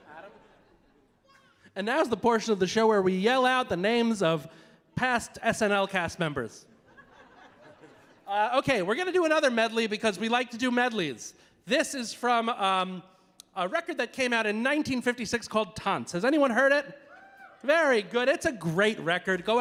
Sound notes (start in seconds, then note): 6.8 audience laughing; 17.3 audience member cheering